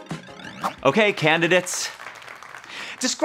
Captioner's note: applause